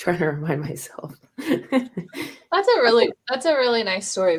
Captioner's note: laughter